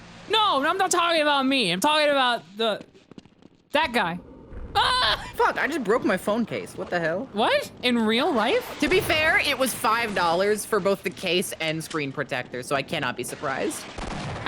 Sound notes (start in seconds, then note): 4.7 screams